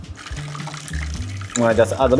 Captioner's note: oil bubbling